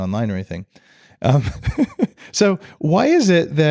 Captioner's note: laughs